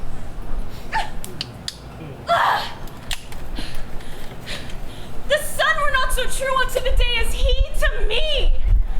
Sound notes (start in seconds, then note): 2.3 Hermia yells